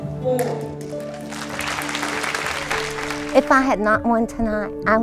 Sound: clapping

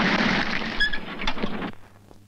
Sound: brakes squeal

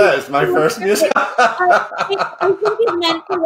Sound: laughing

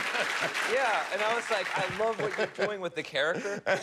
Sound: applause

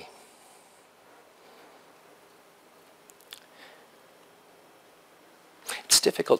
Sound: pause

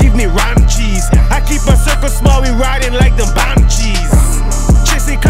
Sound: vroom!!!

